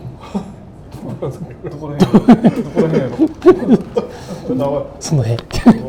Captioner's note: laugh